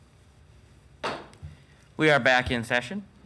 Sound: slams gavel again

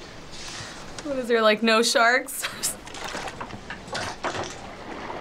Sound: laughs

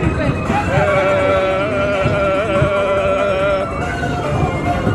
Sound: gasps vibrating; happy music continues

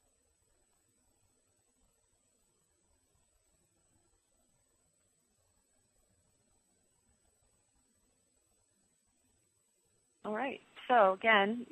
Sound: pause

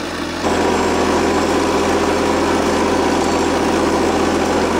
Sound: machine whirring

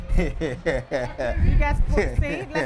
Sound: laughter

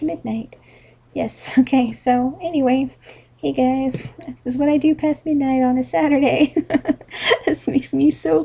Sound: laughs

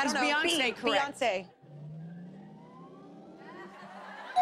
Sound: whirring

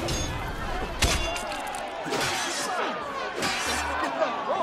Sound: fighting sounds

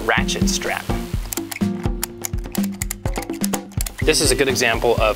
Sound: clicking

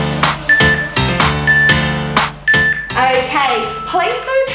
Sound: phone beeping

